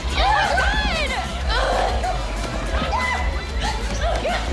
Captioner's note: grunting